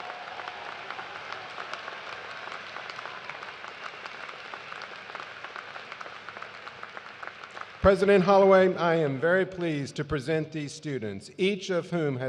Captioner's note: cheers and applause